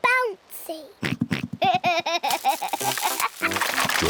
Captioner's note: oinks and giggles